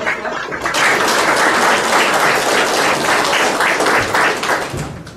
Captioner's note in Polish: oklaski